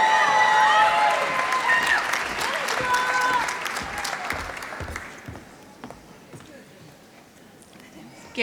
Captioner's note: applause